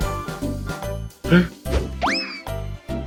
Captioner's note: gasp